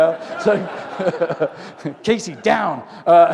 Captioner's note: laughter